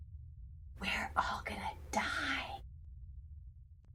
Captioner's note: whispers